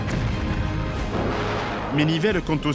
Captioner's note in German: Kanonenschüsse; Explosionen